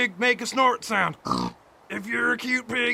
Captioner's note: pig oinks